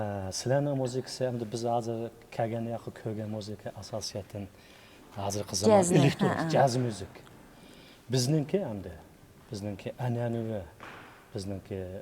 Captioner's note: people talking in Chinese